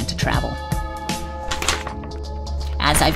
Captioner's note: paper rustling